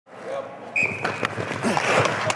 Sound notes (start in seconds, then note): 0.7 whistle